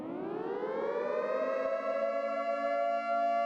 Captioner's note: storm siren